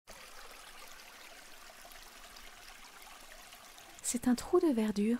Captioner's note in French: bruit de riviere